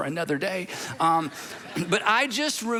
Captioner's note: congregation laughing